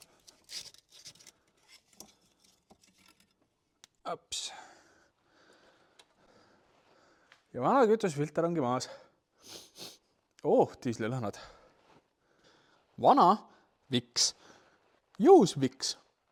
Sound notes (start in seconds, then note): 9.4 sniff sniff